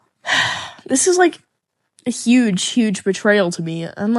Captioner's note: sighs yet again